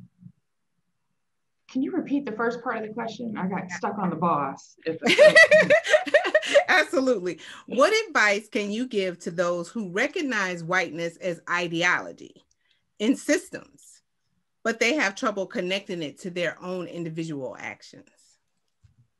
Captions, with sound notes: - Can you repeat the first part of the question? I got stuck on the boss. (laughs) - Absolutely. What advice can you give to those who recognize whiteness as ideology in systems but they have trouble connecting it to their own individual actions?